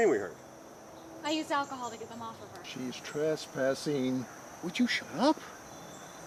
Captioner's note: whispers